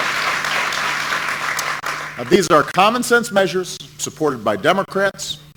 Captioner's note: applause